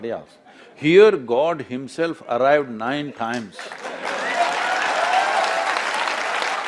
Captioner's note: laughter/Applause